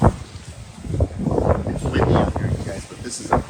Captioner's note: wind rustling